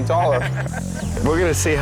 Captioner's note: lalaugughthterer